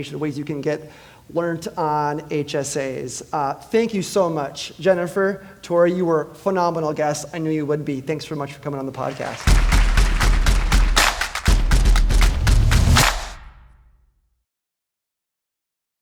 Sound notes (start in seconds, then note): 9.0 audience applauding; 9.0 upbeat music